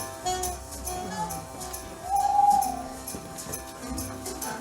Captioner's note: owl hoots